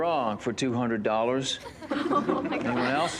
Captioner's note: laughter